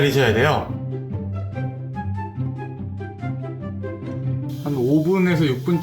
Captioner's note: starting to boil